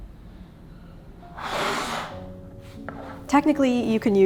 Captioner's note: hair brush scratching